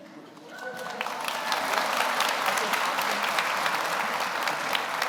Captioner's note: audience applauds